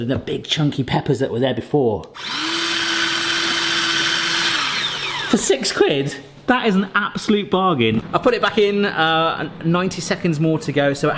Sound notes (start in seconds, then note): 2.5 chopper whirring